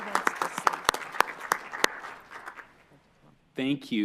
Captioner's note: appluase